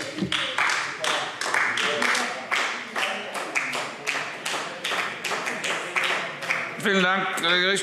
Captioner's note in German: Beifall AfD